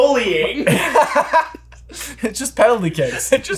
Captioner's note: both laughing